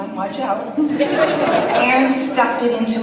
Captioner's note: audience laughs